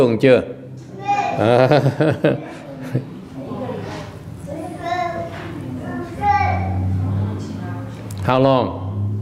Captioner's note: laughter